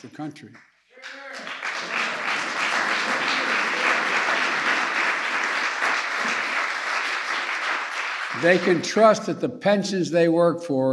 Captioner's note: applause